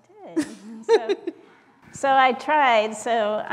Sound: laugh

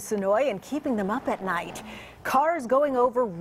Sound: grinding sound

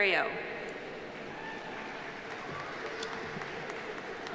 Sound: audience applauding

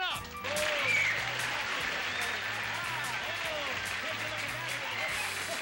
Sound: applause, cheers

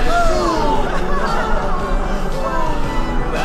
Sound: Daniel laughing; Danielle laughing

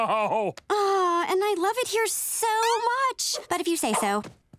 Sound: sighing

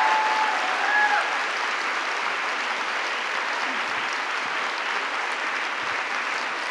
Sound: applause

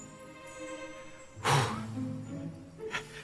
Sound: gasp

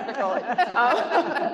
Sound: laughs

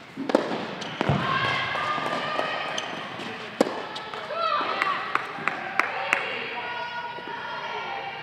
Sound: crowd Cheering

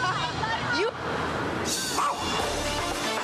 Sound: dog barks

